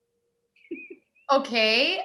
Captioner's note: chuckles